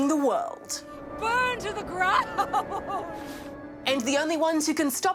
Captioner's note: laughs